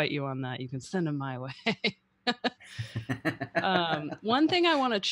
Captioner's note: laughs